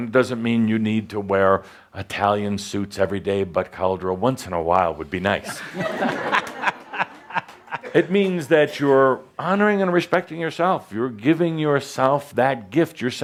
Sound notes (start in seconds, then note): 5.5 laughter